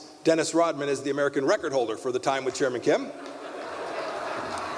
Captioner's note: applause